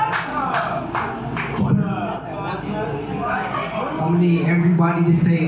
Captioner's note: mockingly